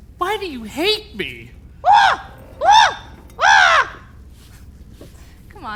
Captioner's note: Wendell squawking